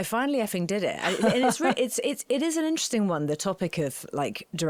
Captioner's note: laughing